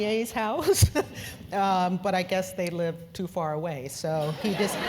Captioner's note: laugh